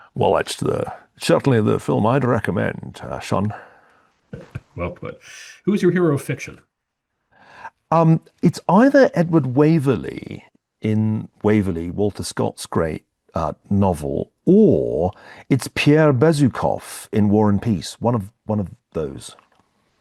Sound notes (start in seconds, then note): 4.3 laugh